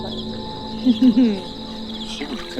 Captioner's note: Faith Laughing